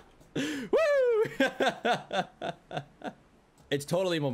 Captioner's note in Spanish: Risas